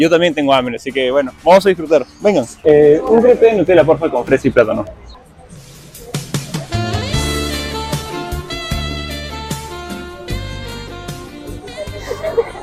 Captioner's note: laughs